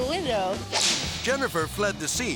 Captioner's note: air swoosh